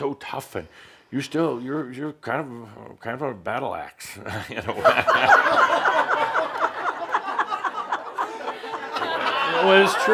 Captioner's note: laughter